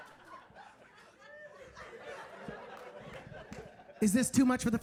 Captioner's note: audience laughing